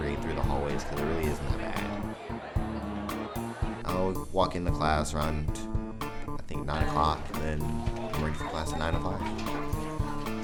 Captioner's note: students talking